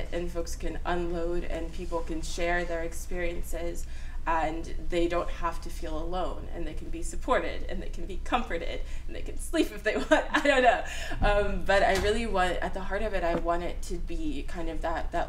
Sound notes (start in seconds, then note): 10.4 laughs